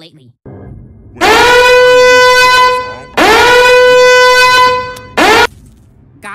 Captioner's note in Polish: Alarm zagłuszający wszystko